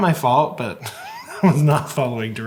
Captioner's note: laughing